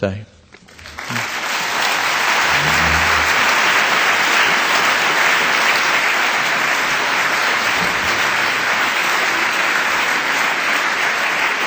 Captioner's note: applause